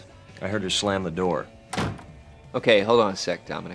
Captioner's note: door slamming